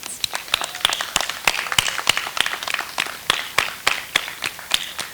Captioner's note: audience applauds